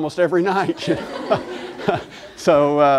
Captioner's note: laughter